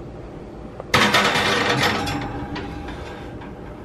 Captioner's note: metal rack clanging